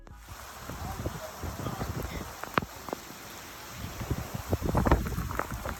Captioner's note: flames crackling; wind gusting